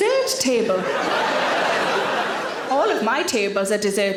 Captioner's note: audience laughing